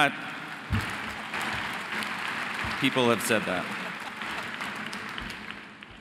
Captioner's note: audience applauding